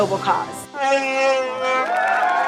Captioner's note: Chewbacca screams; audience applauds